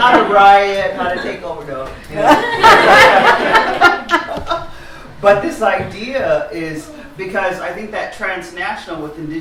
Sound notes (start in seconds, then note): 2.1 laughter